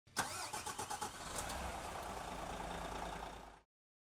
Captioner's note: engine start up